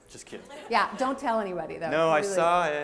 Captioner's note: laughter